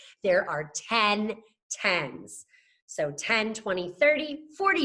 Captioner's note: none